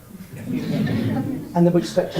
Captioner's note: audience laughs